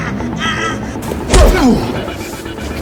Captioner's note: bone snaps; thug exclaiming; fist thuds; Chris groans; Chris grunts; thug chokes